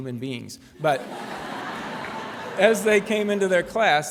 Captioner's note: laughter